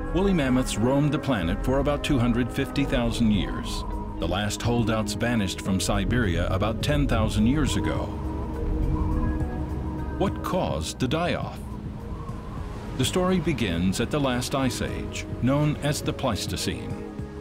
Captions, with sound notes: Woolly mammoths roamed the planet for about 250,000 years. The last holdouts vanished from Siberia about 10,000 years ago. [wind whistles] What caused the die off? The story begins at the last ice age, known as the Pleistocene.